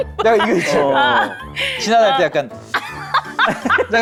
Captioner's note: flustered